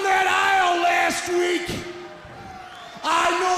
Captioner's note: crowd chatter